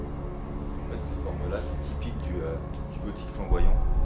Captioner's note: speaks French